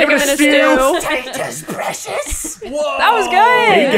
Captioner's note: accented